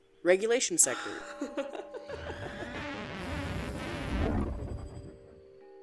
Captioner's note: the sound of a portal opens and someone coming through gives a giggle